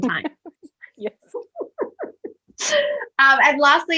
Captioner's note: laughs